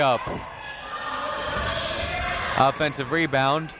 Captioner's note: crowd members shouting